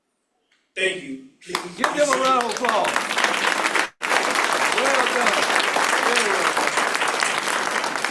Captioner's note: applause